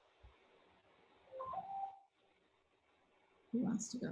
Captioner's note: beeping